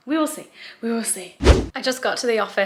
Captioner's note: whooshing sound